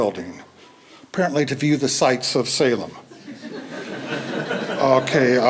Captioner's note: laughter